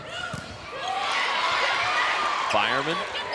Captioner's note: cheering and shouting